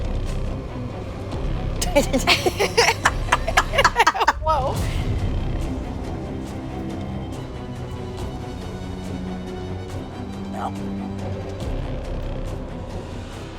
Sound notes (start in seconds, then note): 1.8 laughing